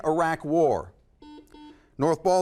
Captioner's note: buzzer